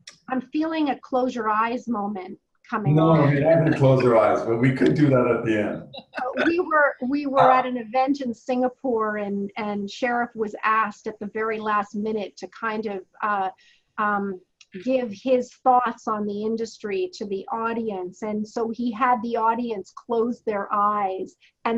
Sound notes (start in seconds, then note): 7.2 laughs